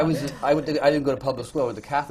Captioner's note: laughter